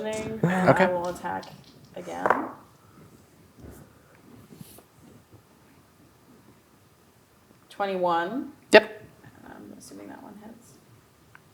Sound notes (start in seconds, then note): 0.9 dice rolling